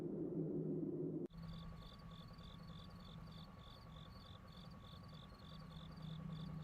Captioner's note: crickets chirping